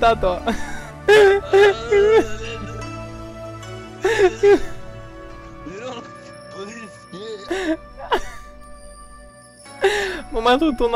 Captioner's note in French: rires